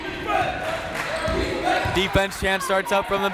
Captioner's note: crowd